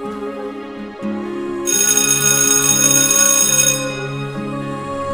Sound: school bell ringing

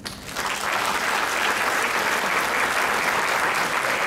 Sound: crowd clapping

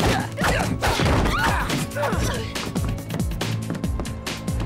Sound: grunting

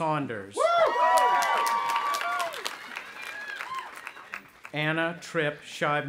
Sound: audience applauding and cheering

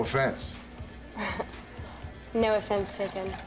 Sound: chuckles

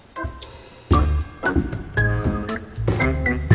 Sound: footsteps

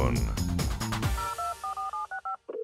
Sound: beeping

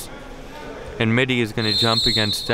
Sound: whistle blows

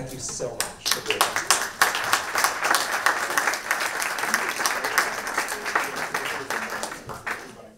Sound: applause

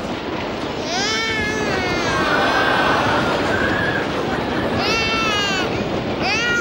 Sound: crying

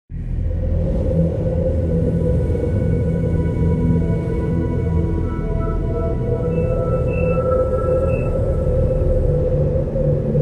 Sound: sounds of strong winds

